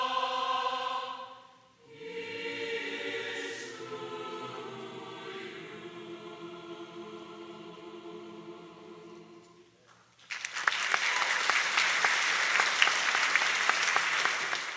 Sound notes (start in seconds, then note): 10.1 applause